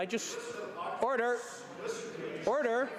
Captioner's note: crowd Noise